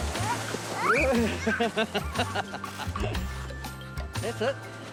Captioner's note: laughs